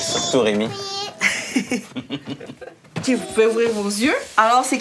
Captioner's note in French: rires